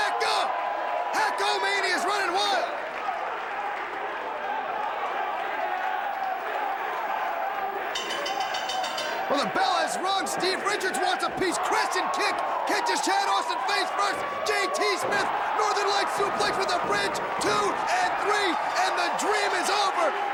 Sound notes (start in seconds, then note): 3.8 crowd cheering; 7.9 bell ringing